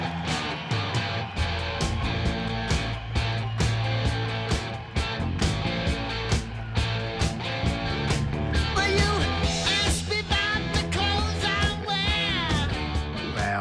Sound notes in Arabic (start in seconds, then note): 8.8 جمهور يصرخ; 8.8 موسيقى روك قوية